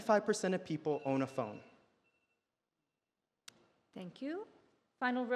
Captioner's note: alarm beeps